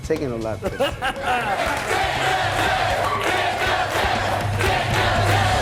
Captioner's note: audience chanting